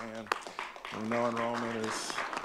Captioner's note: audience clapping